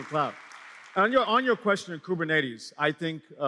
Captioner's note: applause